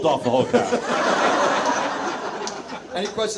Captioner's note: audience laughs